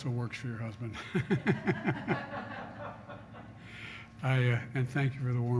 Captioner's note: laughter